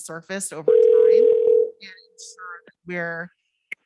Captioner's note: phone ringing